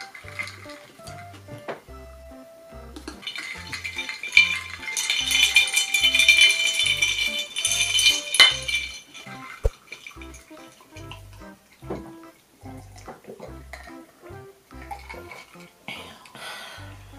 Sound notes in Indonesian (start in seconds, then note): 9.4 Gulp tegukan